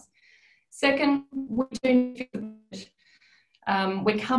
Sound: audio distorts

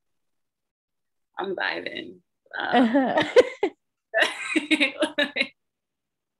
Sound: laughter

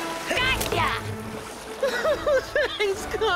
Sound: Vector laugh crying

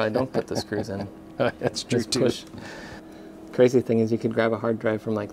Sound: laughing

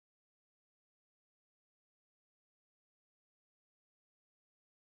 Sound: car engine roaring

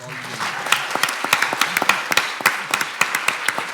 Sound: clapping

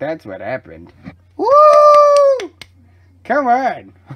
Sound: customers cheer

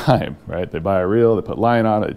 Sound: chuckling

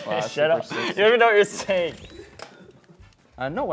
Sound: laughs

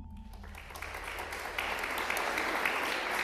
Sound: applause

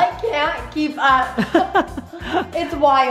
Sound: laughter

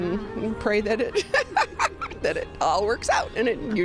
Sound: laughs

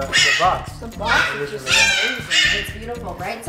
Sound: bird squawking loudly

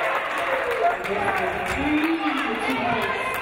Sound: audience cheering

